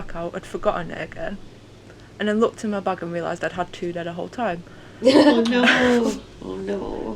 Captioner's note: laughter